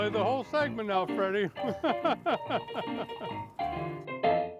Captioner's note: laughing; piano music